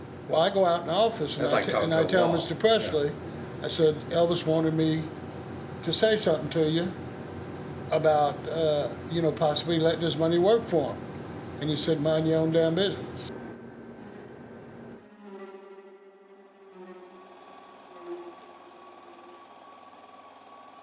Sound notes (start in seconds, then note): 14.9 anxious string music; 15.9 projector humming